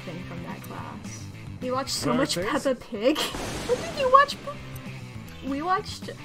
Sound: through laughter

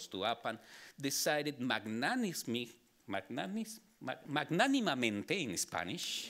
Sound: speaking Spanish

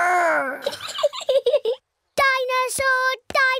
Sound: giggles

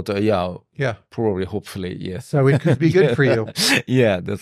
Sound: laughs

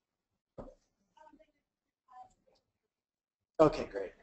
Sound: faintly speaks

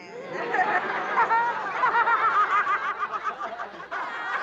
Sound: all laughing

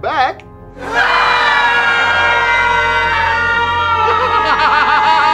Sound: screaming; maniacal laughter

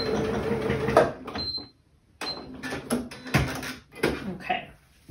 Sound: sewing machine noises

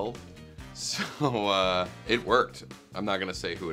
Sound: laughs

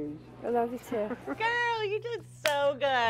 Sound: giggling

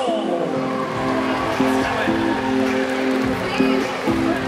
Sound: cheers

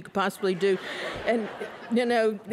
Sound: laughter

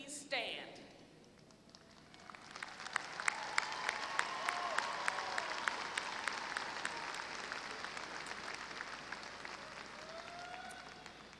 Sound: applause

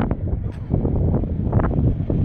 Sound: wind

